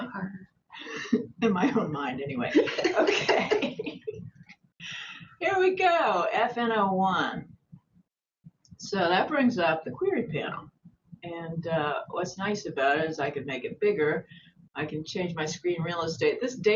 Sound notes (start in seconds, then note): 2.5 laughter